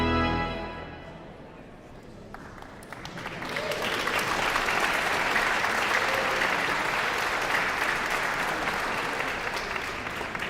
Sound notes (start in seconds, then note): 2.2 audience applauds